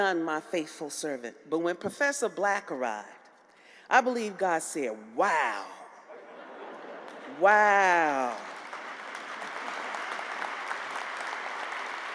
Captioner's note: applause